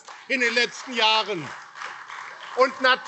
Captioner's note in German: Beifall AfD